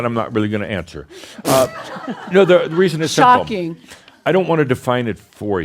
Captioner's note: some laughter